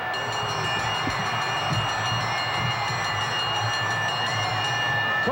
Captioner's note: bell ringing